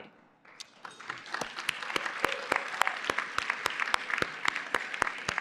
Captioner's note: applause